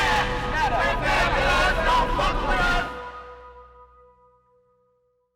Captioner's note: chanting continues